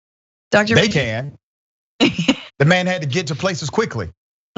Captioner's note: laugh